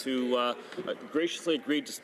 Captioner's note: clapping